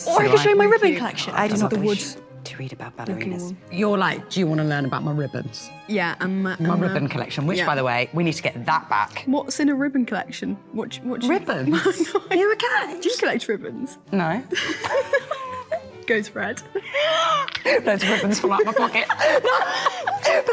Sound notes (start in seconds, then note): 14.6 laughing; 19.6 both laughing